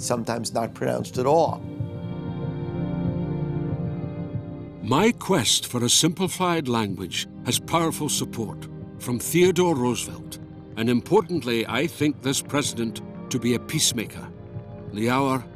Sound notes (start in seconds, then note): 5.3 Voz en off